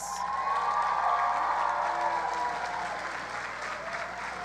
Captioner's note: audience cheers